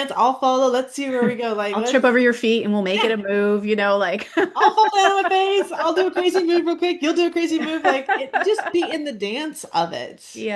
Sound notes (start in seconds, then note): 1.8 laughs; 7.4 laughs